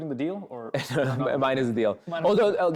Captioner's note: chuckles